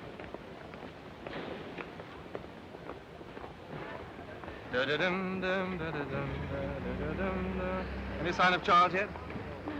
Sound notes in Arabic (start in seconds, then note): 0.0 خطوات; 4.4 جيلبرت يدندن